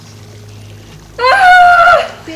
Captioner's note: screams